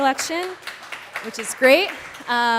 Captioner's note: applause